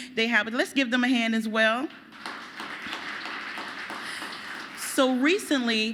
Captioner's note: applause